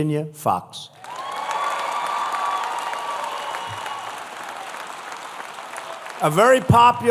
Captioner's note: applause